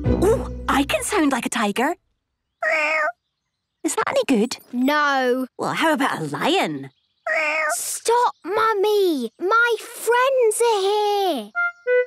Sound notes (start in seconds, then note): 2.6 small meow; 7.2 small meow